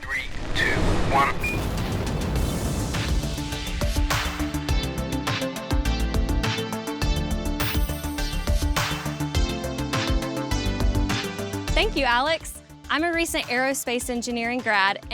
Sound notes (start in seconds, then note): 1.7 rocket engine roaring; 3.6 upbeat electronic music